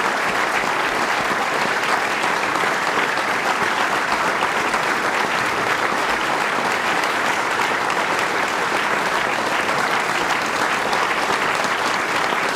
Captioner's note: applause